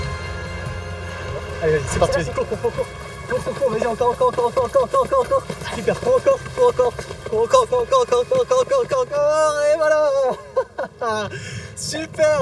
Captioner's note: laughs